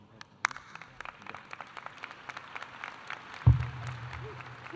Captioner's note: audience applauding